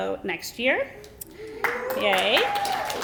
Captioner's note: applause